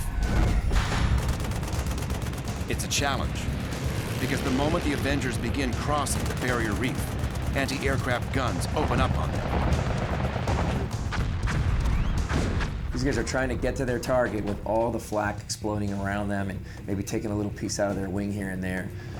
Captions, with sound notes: It's a challenge because the moment the avengers begin crossing the barrier reef, anti-aircraft guns open up on them. [missiles firing] These guys are trying to get to their target with all the flak exploding around them and maybe taking a little piece out of their wing here and there.